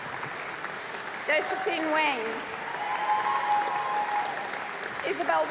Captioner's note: applause